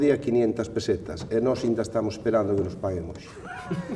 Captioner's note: laughs